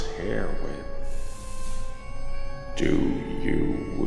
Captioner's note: lights buzzing